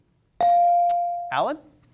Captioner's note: bell sounding